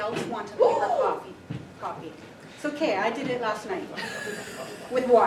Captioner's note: gasps